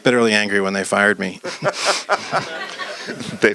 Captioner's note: laughs; audience laughs